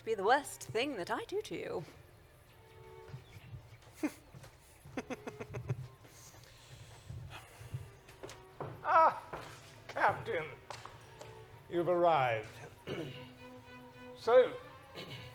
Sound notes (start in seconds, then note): 3.8 chuckles